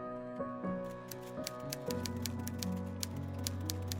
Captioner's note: tapping